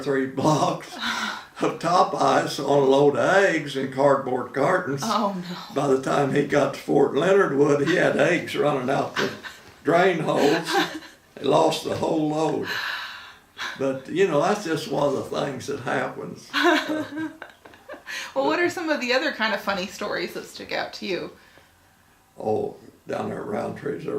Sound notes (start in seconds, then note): 10.1 laughing